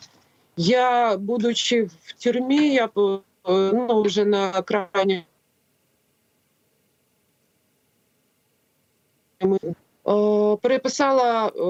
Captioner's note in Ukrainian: поміхи